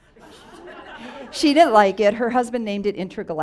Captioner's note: audience laughs